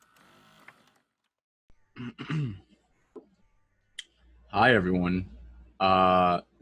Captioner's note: clears his throat